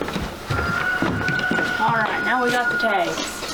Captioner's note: rooster crows